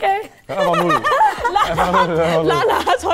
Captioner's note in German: Alle lachen